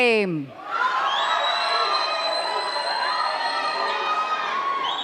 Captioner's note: cheers and claps